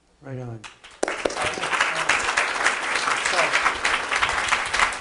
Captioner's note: audience applauding